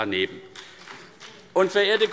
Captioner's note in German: Beifall CDU und BÜNDNIS 90/DIE GRÜNEN